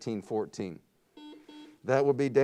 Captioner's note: buzzer beeps